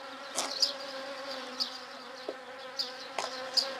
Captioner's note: buzz